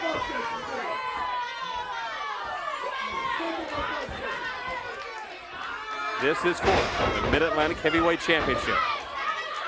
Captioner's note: crowd cheers